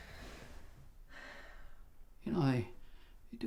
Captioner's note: sighs